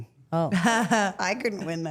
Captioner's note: Rhea laughs